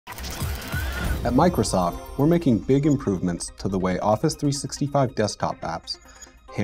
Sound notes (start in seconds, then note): 0.1 machine startup